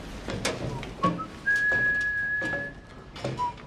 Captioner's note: Booth whistling "The Raiders March"